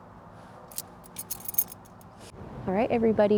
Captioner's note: keys jingle